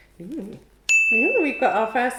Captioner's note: bell dings